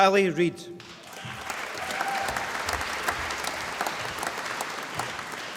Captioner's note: applause